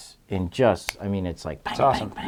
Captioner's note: snaps fingers